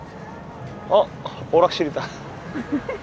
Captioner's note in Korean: 웃음